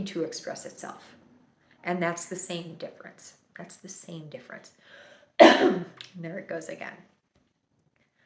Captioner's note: coughs